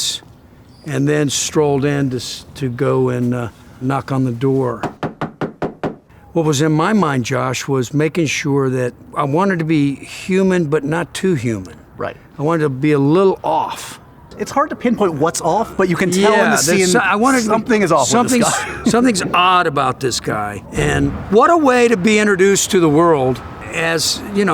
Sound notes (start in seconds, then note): 4.8 knocking